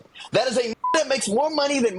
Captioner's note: beep